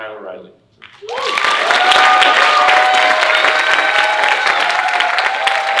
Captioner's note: audience cheering and applauding